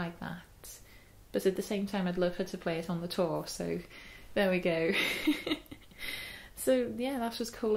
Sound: laughs

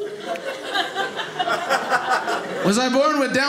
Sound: audience laughing

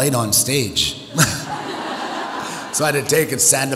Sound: audience laughs

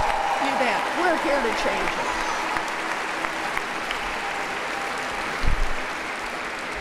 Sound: applause

